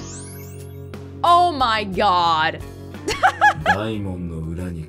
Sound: chuckles

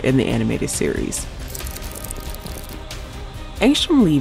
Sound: dramatic music; pages whooshing

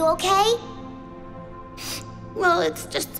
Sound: sniffling

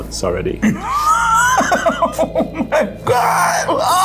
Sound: laughing

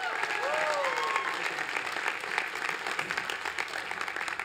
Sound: cheering

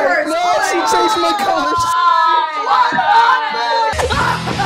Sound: everyone groaning; evil sounds

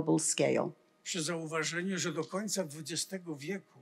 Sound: foreign language

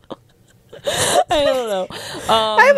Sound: laughs

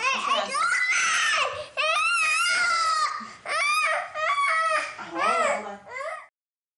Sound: child screaming

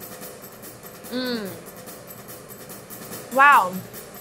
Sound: moans approvingly

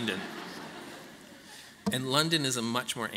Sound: laughter

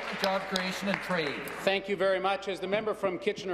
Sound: applause

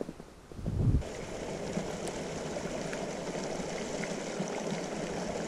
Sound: water rushing

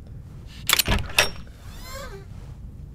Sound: door hinge creaking

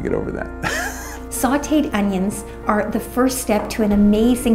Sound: laugh

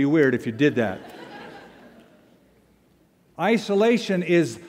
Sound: laughter

